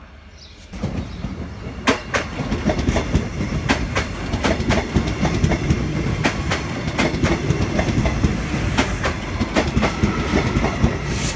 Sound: sound of train

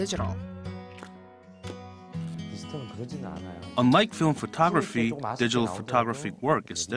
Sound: Korean

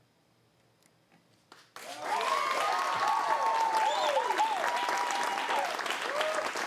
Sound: cheers and applause

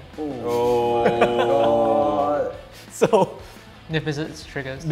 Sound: laughs

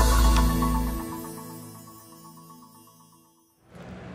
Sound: upbeat electronic music; logo sparkles

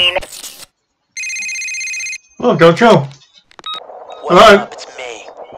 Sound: phone rings

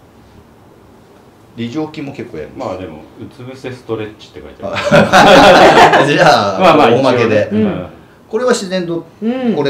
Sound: laughs

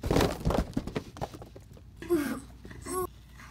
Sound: boxes falling

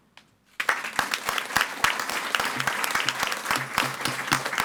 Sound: audience applauding

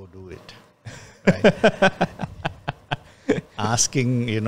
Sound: laughs

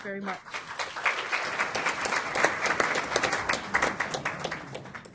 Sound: applause

